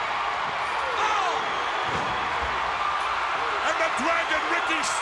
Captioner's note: crowd cheering